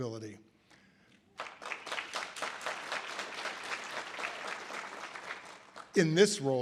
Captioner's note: audience applause